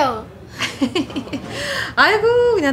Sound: Hyun-young’s laughter

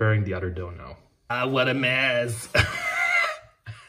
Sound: laughs

